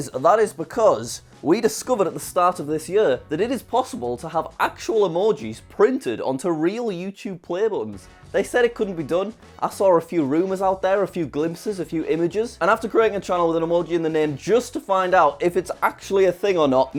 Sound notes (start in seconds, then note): none